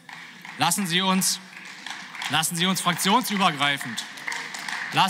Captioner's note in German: Beifall